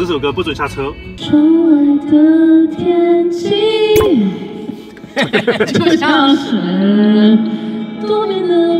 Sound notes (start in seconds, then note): 5.0 laughter